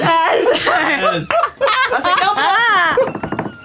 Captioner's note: laughter